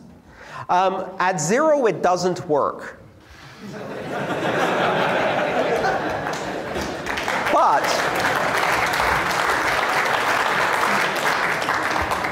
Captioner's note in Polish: Śmiech